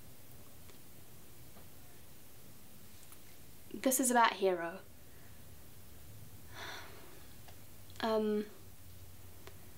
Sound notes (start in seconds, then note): 6.5 sighs